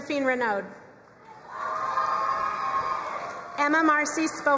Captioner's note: crowd cheering and applauding